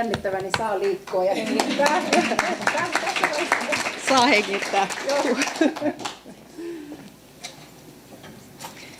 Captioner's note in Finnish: aplodeja